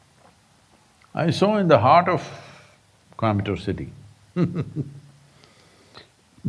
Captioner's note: laughs